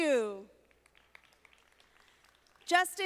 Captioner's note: audience applauding